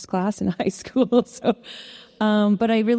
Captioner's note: chuckles